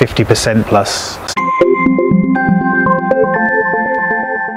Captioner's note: bells chiming